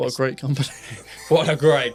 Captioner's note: laughs